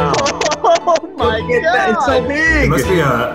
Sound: laughs

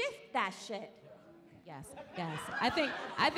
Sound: laughing

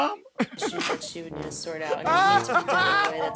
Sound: Murr and Q laughing

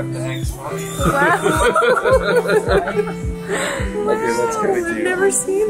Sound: group laughing

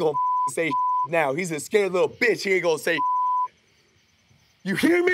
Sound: beep; beep

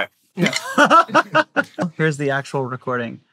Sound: laughs

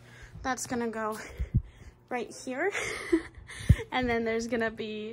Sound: laughs

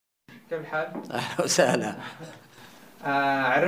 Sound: laughs

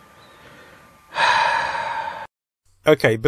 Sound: sigh

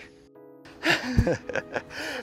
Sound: chuckles

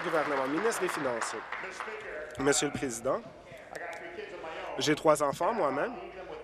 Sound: applause

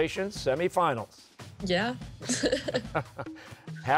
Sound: laughs; chuckling

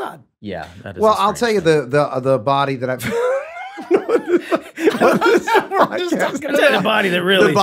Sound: all laughing

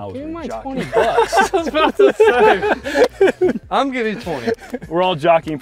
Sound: laughter

